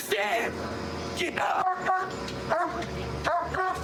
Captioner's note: barking